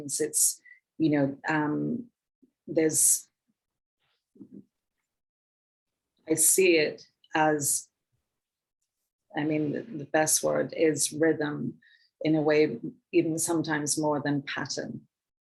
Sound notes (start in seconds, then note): none